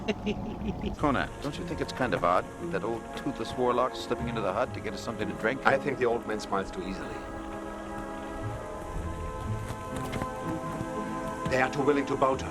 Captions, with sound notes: - Conan, don't you think it's kind of odd that old toothless warlock slipping into the hut to get us something to drink? - I think the old man smiles too easily. (footsteps) - They are too willing to bow to us.